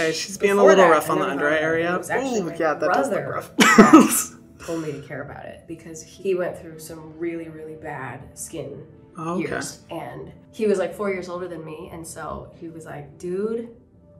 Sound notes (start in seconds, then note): 3.6 Hyram laughing